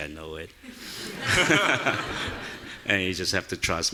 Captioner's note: audience laughing